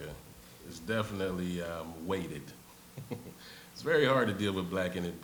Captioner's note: laughs